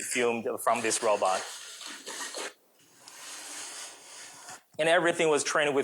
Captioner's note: robot whirring